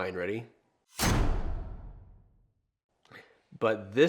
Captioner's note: banging sound